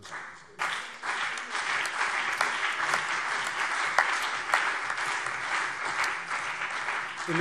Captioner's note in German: Beifall CDU und BÜNDNIS 90/DIE GRÜNEN